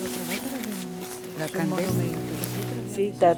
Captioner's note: speaking in foreign language